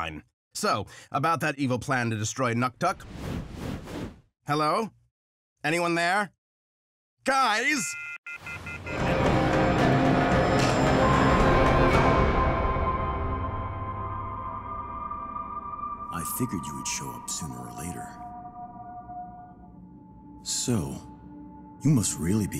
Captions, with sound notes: So, about that evil plan to destroy Nuktuk. Hello? Anyone there? Guys! [beeping] I figured you would show up sooner or later. So, you must really be in trouble